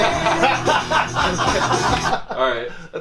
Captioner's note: everyone laughs